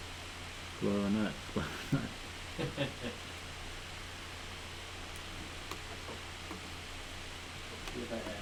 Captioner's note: laughter